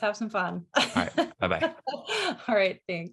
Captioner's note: laughs